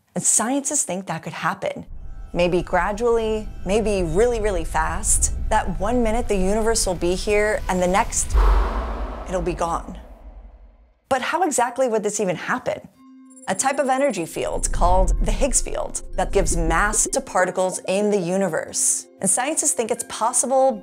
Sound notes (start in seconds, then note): 7.4 objects whooshing; 14.4 mysterious music